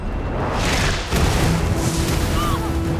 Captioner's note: fire whooshing